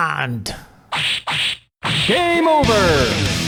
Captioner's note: hit Fx